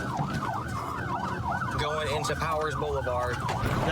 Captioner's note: sirens wailing